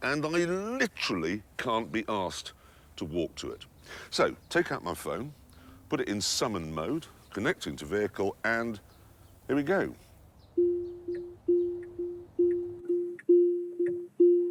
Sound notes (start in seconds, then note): 10.6 beeping